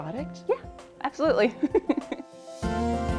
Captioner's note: chuckles; bright music